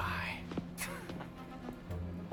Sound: laugh

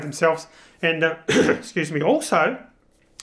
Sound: coughs

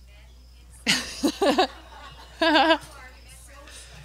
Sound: laughs

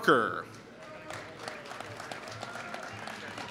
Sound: applause

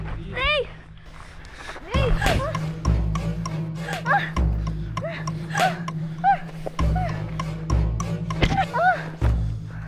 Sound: Chinni grunting

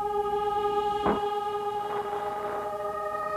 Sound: mysterious music; radio static

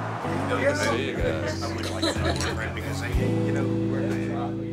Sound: speaking in foreign language

